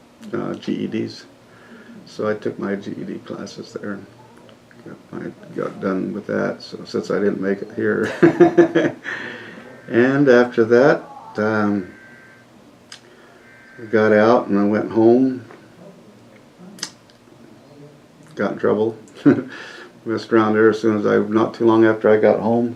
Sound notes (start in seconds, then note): 8.0 laughs